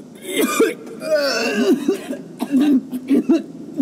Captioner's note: Babcock retches